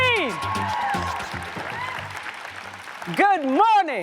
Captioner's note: audience cheers and applauds